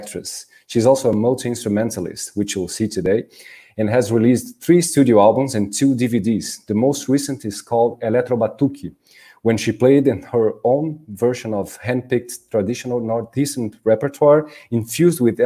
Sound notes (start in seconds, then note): 8.4 speaking in Portuguese